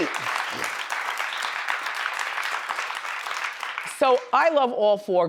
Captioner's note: audience applauds